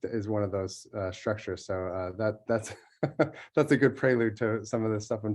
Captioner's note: laugh